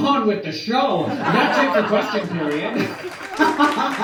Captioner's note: laughter